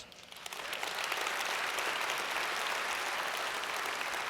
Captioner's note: audience applauds